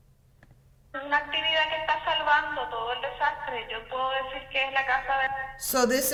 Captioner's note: woman speaking in Spanish